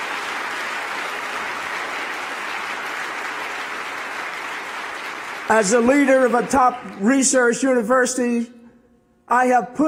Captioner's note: applause